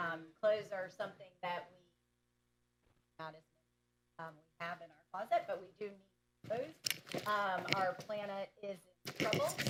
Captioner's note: off mic